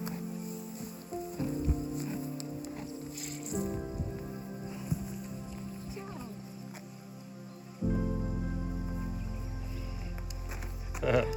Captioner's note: laughter